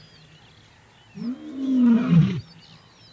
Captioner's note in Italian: ruggito